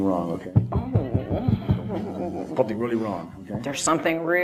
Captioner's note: audience laughter